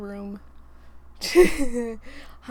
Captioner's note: laughs